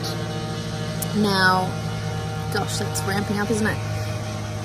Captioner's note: background sanding becomes louder